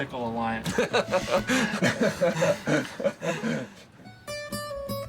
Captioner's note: all laughing; gentle music